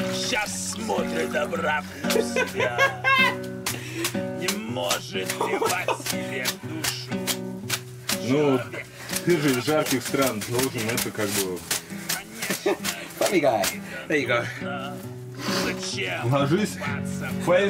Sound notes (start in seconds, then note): 0.8 Reggie laughing; 8.1 speaking in foreign language; 16.0 speaking in foreign language